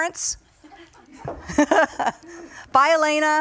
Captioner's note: laughing